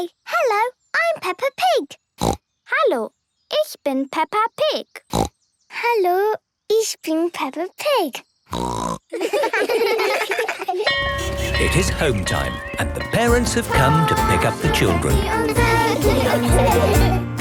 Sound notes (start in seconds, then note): 2.2 snorting; 5.1 snorting; 8.5 snorting; 9.1 laughter; 10.8 bell clanging